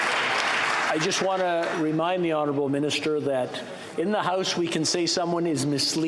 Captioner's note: applause